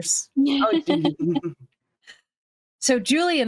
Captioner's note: cast members laughing